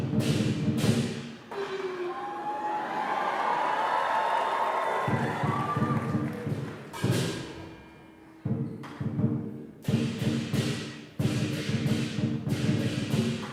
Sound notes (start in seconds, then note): 2.5 applause; 4.9 drum music